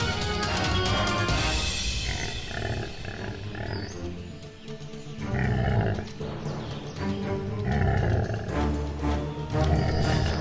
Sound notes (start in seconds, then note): 1.8 stegosaurus grunts, growls